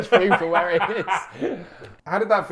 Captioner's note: both laughing